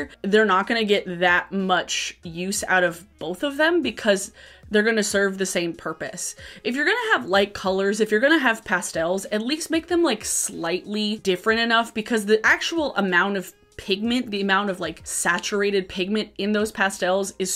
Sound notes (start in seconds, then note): none